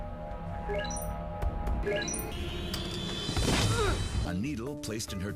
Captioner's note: Blackberry ringing